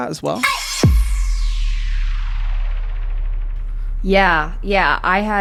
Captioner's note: intense digital swoosh